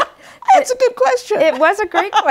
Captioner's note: laughter